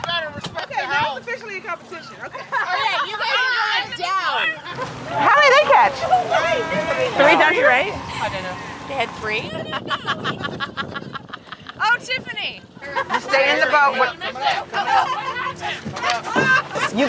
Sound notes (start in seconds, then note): 9.6 laughter